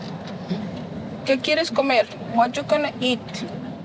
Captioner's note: speaking in Spanish